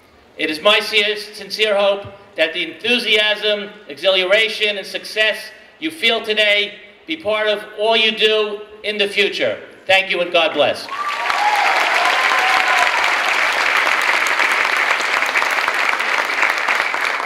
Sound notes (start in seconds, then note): 10.8 clapping and cheering